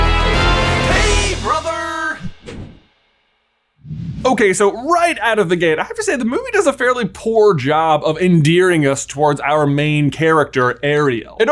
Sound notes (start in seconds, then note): 2.3 air whooshes